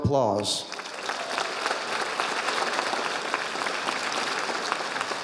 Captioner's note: audience applauding